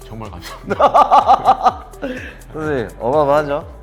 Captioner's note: laughs